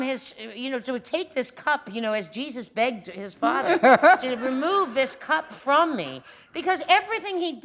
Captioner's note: laughter